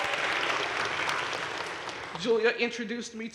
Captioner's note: crowd cheering and applauding